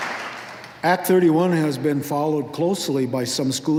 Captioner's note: applause